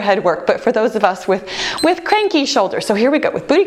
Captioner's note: timer beeps